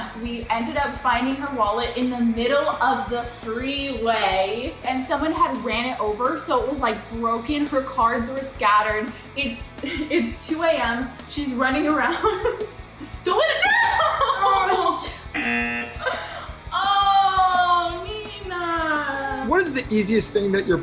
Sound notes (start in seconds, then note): 13.3 laughs; 15.3 buzzer